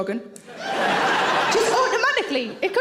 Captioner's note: audience laughs